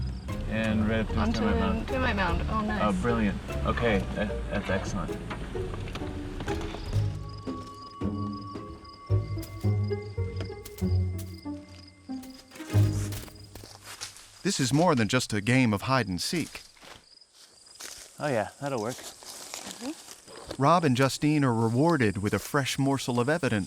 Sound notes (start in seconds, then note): 6.6 insects chirping